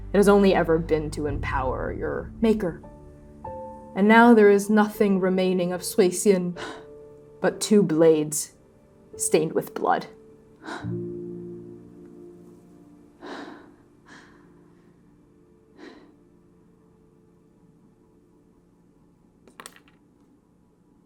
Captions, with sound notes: It has only ever been to empower your maker. And now there is nothing remaining of Suixin remaining of Suixin - [sharp exhale] but two blades stained with blood. [exhaling] [slowly breathing in and out]